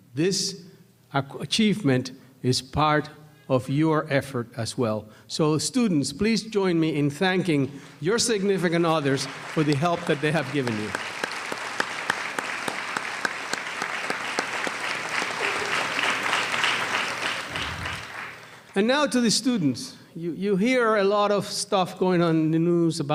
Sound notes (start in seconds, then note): 12.2 applause